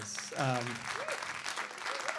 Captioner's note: applause